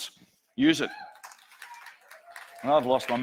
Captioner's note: audience cheers